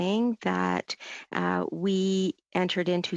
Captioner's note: speaking French